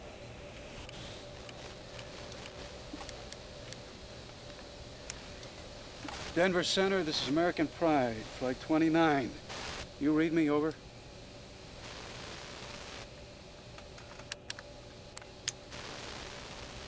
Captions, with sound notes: [ Radio Static On Headset ] DENVER CENTER, THIS IS AMERICAN PRIDE FLIGHT 29. DO YOU READ ME ? OVER. [ Static Continues ] [ Radio Dial Clicking, Static Continues ]